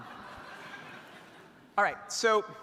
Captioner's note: audience laughing